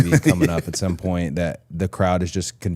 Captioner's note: person on right laughing